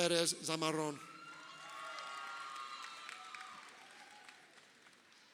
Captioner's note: crowd cheering